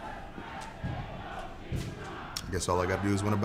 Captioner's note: fans chanting